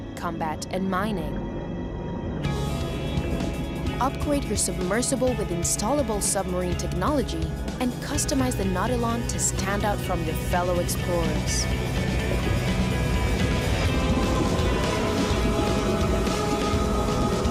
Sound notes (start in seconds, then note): 11.7 bubbling noises